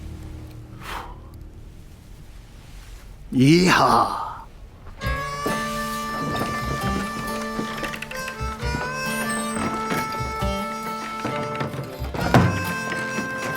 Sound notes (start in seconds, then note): 0.6 man blows; 4.9 gentle music